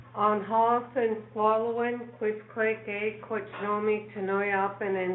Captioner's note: speaking foreign language